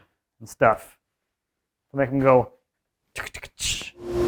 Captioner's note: imitating doors closing